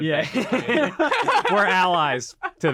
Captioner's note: group laughing